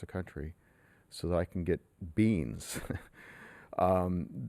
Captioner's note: laughs